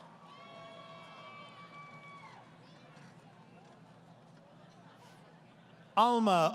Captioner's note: crowd Cheering